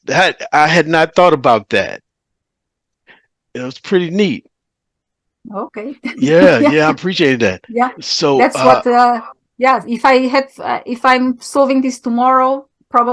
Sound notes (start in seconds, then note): 5.9 laughing